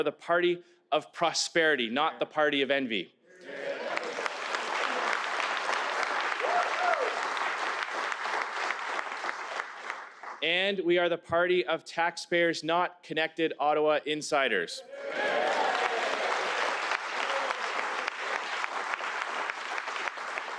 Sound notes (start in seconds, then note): 8.7 applause